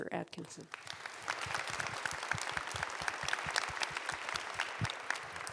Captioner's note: audience applauds